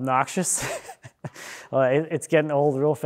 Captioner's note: laughing